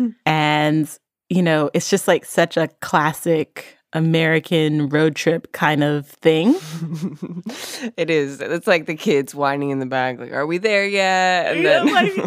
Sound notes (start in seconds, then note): 6.5 chuckles; 11.6 laughs